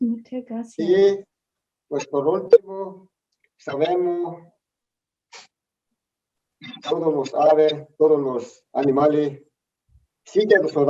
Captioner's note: speaks in Spanish